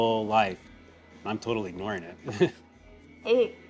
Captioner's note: chuckles